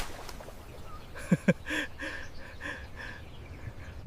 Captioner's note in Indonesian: tertawa